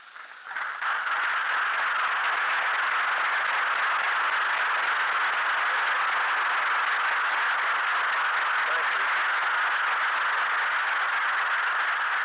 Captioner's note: applause